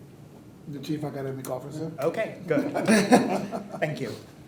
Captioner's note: laughing